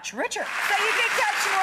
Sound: audience applauding

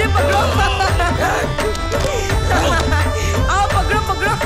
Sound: laughs

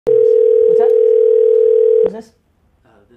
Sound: phone ringing

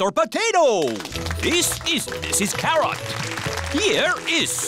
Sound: applause

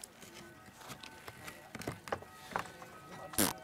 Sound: distant ringing of a bell

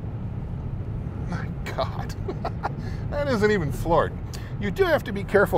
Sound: laughs

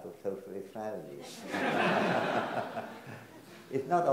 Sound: everyone laughs

